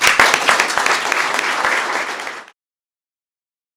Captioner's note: applause